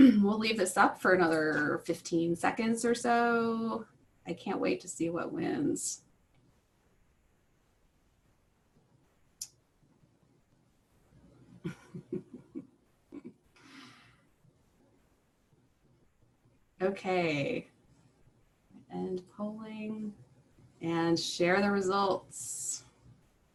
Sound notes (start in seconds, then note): 6.0 laughter